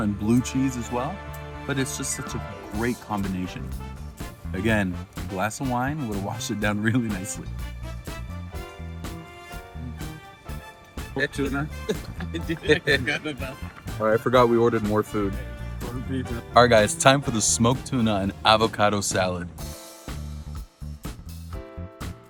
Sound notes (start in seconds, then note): 11.6 laughing